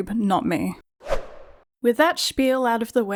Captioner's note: whoosh Sound